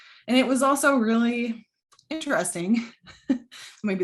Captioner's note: chuckles